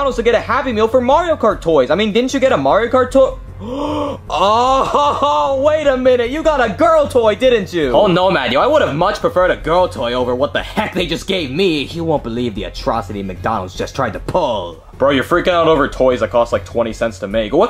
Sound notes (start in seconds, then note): 3.4 gasps